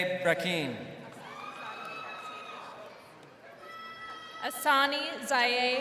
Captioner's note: crowd cheering